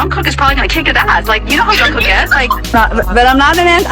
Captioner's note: everyone laughs